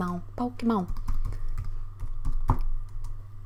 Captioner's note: keyboard tapping